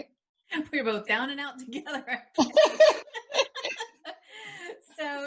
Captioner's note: laughing